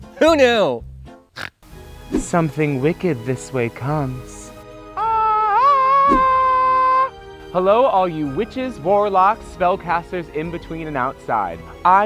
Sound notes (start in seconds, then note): 1.3 snorts; 5.1 sings